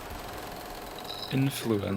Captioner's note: light Flickering